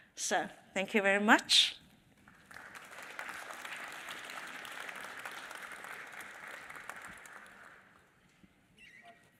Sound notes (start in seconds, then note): 2.2 audience applauding